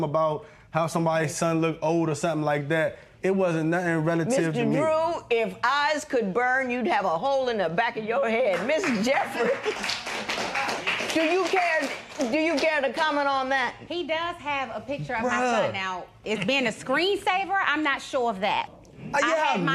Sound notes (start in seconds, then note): 8.5 applause